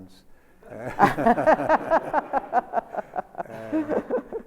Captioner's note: Sonia laughs